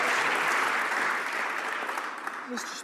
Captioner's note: some Applause